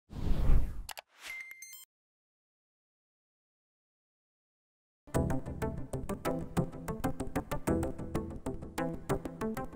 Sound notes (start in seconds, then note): 0.6 robotic chiming; 5.1 upbeat music